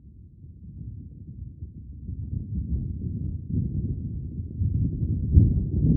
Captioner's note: heartbeat continues